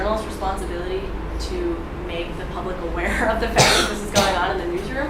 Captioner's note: laughs